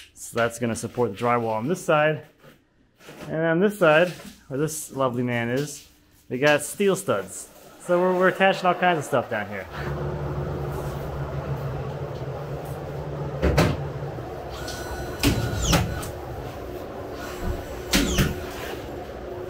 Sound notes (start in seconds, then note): 13.4 board thumping; 14.5 nail gun whirring